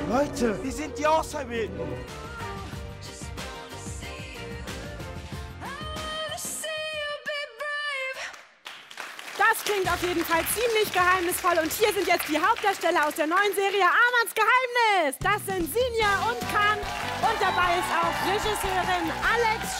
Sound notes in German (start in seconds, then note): 8.1 Applaus